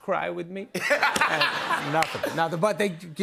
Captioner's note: laughter